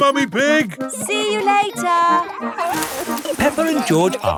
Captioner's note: peppa and george laughing